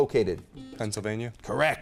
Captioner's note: beep